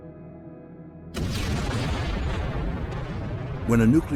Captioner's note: loud explosion